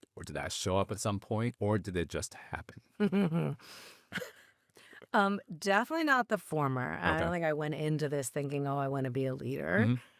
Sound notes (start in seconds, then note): 3.0 chuckling; 3.0 laughing